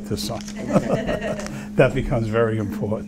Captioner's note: laughing